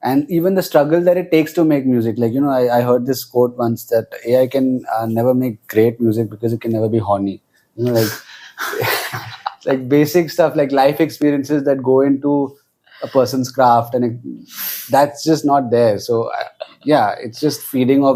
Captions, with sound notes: and even the struggles that it takes to make music. Like, you know, I, I heard this quote once that AI can, uh, never make great music because it can never be -horny. You know, like- -[laughs] ... [laughs] like, basic stuff like life experiences that go into a person's craft and it... That's just not there, so I... Yeah, it's just feeding